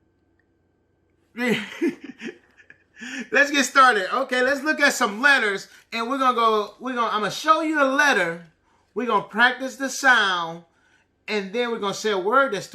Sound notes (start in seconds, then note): 1.4 laughing